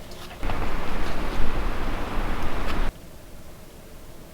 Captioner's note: wind whistling